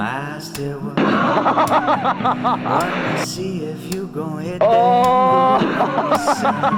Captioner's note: laughing